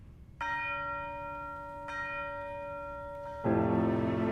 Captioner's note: bells chiming